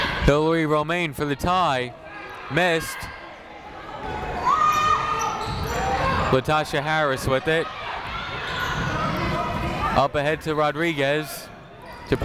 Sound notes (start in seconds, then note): 0.0 people shouting in the crowd; 4.6 people shouting in the crowd